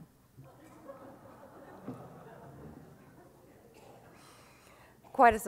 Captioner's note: audience laughs and murmurs